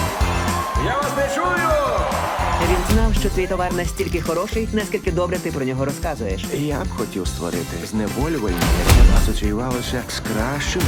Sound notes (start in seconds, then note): 0.0 crowd